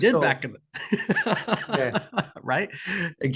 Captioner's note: laughing